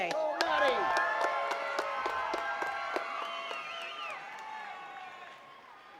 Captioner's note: attendees cheering and clapping